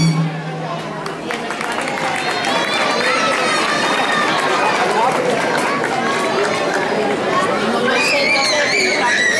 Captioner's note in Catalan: Aplaudiments